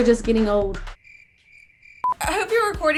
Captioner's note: crickets chirping